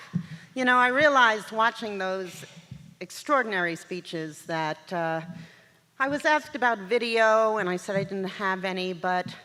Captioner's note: none